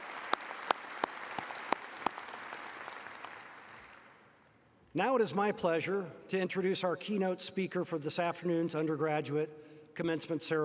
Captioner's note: applause